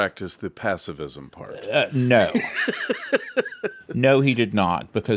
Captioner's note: laughs